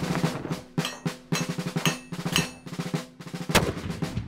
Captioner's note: colonial music; metal being hammered; cannon fired